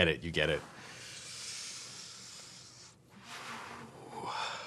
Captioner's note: inhales audibly